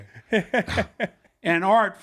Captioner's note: laughs